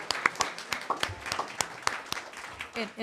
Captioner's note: applause